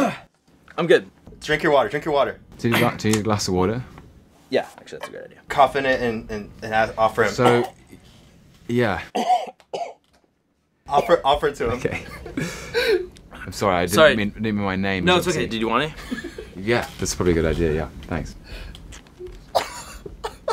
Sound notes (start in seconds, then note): 0.0 coughing; 7.5 coughs; 9.0 coughing; 18.3 laughing